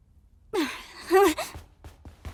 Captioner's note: groans, exclaims softly